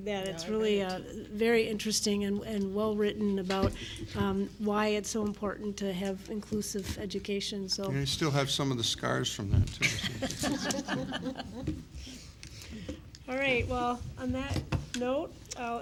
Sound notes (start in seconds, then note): 9.8 chuckling